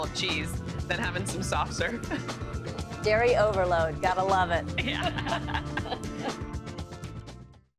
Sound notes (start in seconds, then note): 4.8 laughter